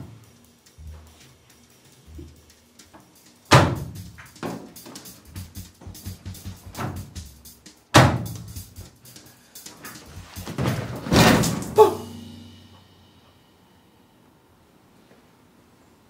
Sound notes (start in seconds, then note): 3.5 washing machine door closes; 7.9 washing machine door closes; 8.0 washing machine door opens; 9.8 washing machine shakes; 11.7 man gasps